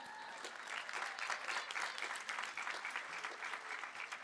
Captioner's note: applause